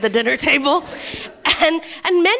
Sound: laughter

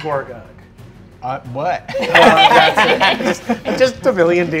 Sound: players laughing

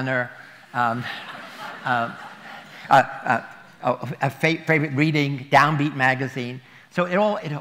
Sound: laughter

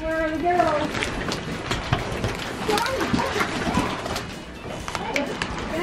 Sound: cardboard and objects shuffling

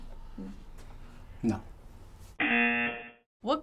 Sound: buzzer

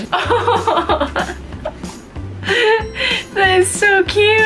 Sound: laughing

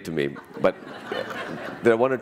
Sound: laughter

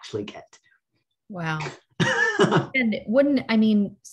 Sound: laughs

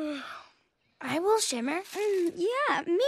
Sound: yawn

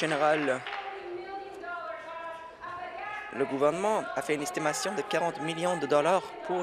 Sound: applause

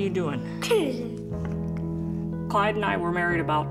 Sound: little girl giggles

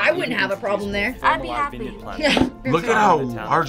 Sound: chuckles

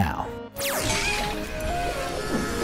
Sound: bright music; electricity buzzing

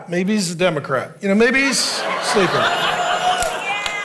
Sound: congregation laughing; clapping

